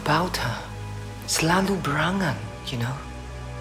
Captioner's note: speaking in foreign language